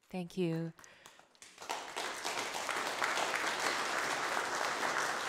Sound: audience applause

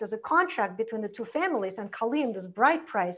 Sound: foreign language

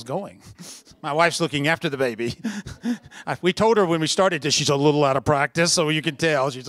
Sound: chuckle

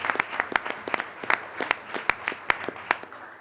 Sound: applause

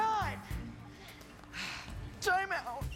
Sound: breathing heavily

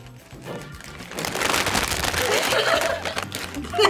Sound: bags crinkling; both laugh

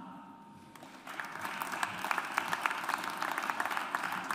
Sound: audience applauds

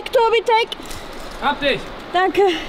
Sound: speaking German

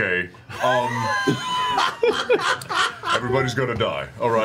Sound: all laugh

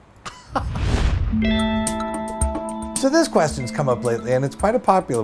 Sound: swoosh

